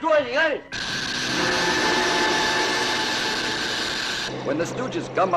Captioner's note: zapping